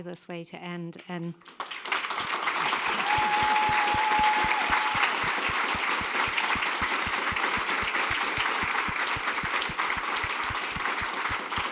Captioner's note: applause